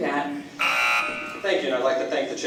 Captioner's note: buzzer